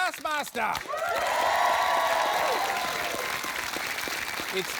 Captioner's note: cheering and applause